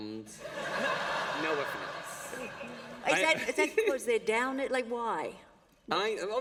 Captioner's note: laughter